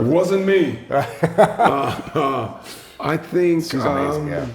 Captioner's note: chuckling